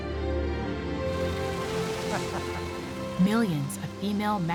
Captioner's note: chuckling